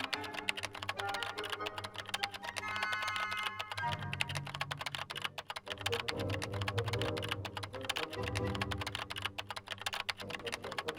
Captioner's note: keyboard typing sound